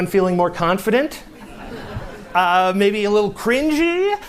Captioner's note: laughter